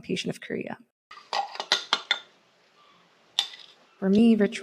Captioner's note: clattering